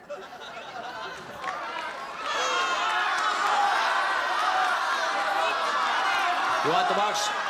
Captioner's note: crowd clamoring